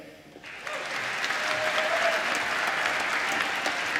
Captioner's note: applause